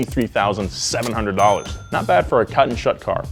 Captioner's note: cash register dings